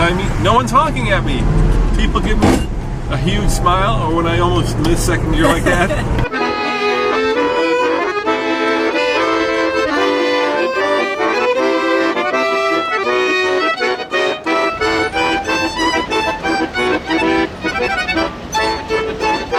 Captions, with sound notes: no one's honking at me! People give me a huge smile when I almost miss second gear like that. (laughter) (accordion plays)